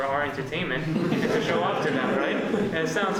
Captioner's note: laughs